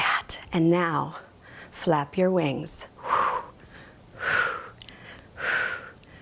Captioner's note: exhaling sharply